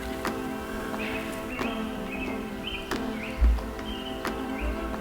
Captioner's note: birds chirping